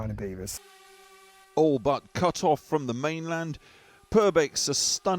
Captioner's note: voice-over